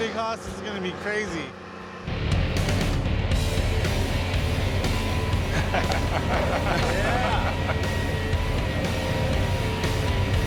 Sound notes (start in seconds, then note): 2.0 rock music; 5.4 laughter